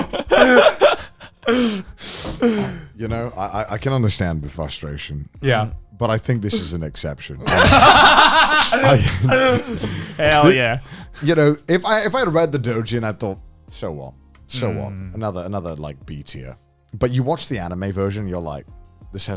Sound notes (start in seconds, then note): 0.0 both laughing; 7.4 all laughing